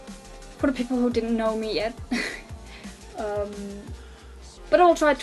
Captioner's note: snickers